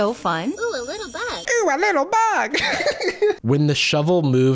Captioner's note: laughs